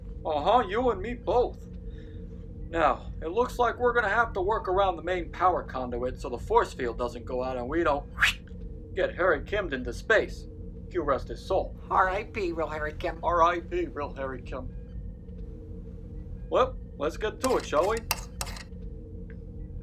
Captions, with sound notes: Uh huh, you and me both. Now, it looks like we're gonna have to work around the main power conduit so the forcefield doesn't go out... ...and we don't [whoosh sound] get Harry-Kimmed into space. Q rest his soul. R.I.P. real Harry Kim. R.I.P. real Harry Kim. Well, let's get to it, shall we? [screwdriver sounds]